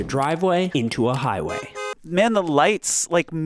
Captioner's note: car beeps